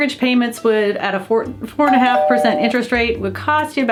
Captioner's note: door bell rings